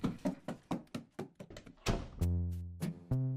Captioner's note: running down stairs; distant door slam